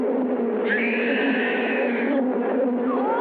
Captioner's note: screaming